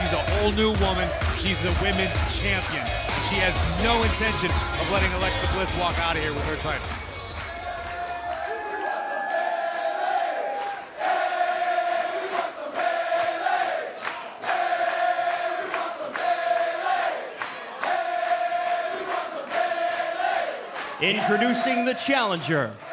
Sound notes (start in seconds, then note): 9.5 cheers & applause; 12.9 fans chanting